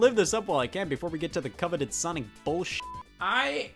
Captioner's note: beep